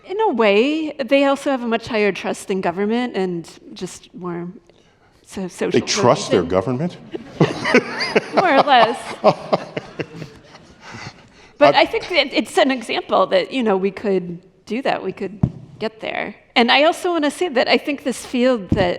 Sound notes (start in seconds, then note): 7.0 laughter